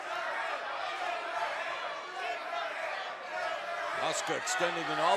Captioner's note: fans chanting